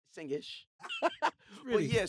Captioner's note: laughter